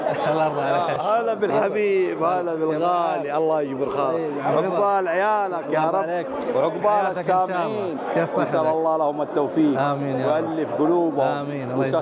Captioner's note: Arabic